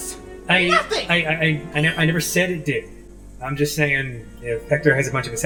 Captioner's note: stammering